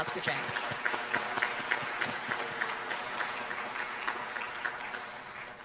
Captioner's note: applause